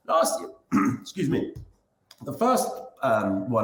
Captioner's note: clears throat